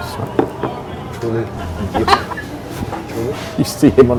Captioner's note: officer laughs